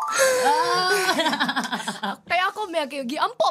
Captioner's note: chuckling